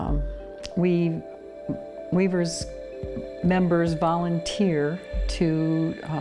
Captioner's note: none